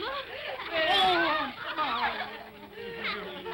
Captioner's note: children giggle